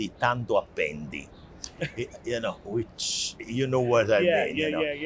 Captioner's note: in Italian; laughs